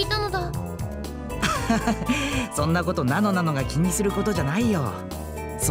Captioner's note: laugh